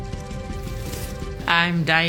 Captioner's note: knife slices